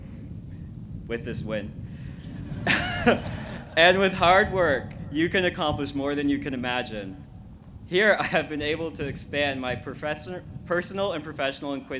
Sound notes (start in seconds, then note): 2.3 laughs